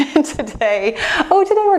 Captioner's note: laughs